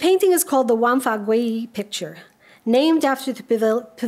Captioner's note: speaks a foreign language